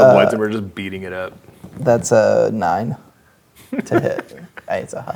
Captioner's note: laughing